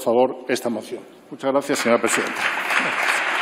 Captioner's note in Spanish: Aplausos